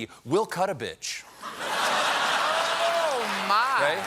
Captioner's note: laughter